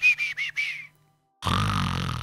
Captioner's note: snores